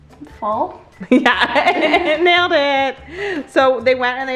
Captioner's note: chuckles